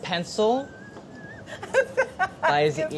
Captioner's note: laughing